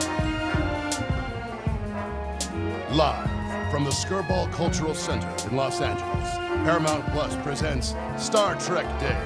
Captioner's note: scattered cheering